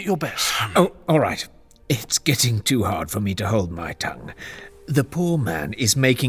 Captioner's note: exasperated